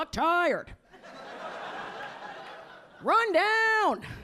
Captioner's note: audience laughing